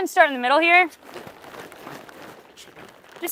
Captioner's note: water splashing